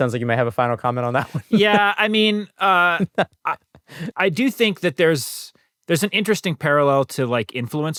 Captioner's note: laughter